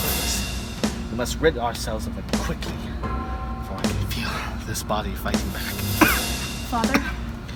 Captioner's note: coughs